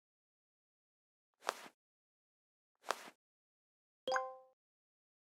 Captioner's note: swiping